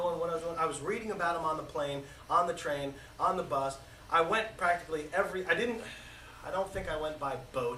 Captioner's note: sighs